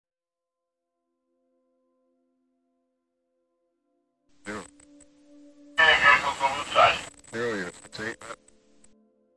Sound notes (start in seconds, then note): 4.5 radio chatter